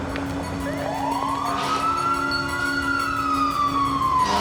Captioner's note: sirens wailing